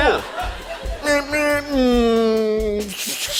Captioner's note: imitates horn honking, engine departing